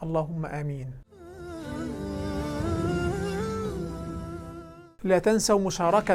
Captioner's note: logo and sound effect